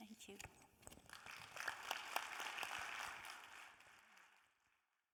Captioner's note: audience applauding